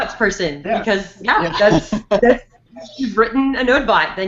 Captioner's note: laughs